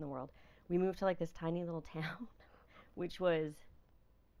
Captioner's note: laughing